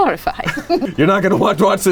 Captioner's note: chuckling